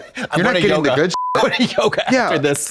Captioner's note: beep